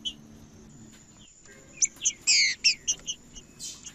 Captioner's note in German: trinca ferro cantando